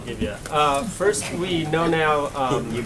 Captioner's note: laughter